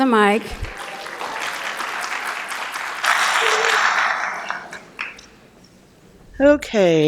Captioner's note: applause